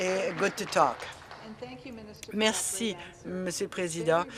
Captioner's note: applause